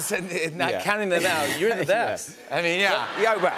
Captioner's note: chuckles